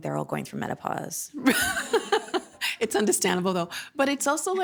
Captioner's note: laughing